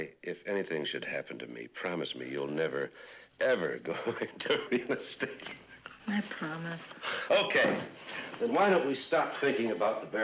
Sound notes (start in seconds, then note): 3.9 gülüyor